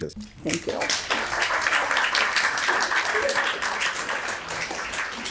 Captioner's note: audience applauds